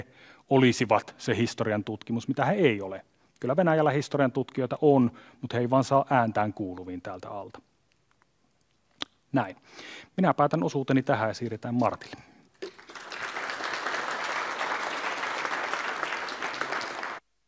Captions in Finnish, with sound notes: niin kuin he olisivat se historiantutkimus, mitä he eivät ole. Kyllä Venäjällä - historiantutkijoita on, mutta he eivät vaan saa ääntään kuuluviin täältä alta. Minä päätän osuuteni tähän, siirretään Martille. (Yleisön taputuksia.)